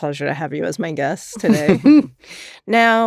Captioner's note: chuckle